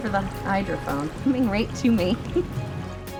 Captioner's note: chuckles; soft music